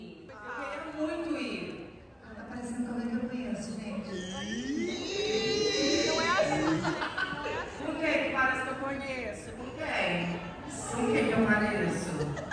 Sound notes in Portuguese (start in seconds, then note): 5.8 Blogueirinha ri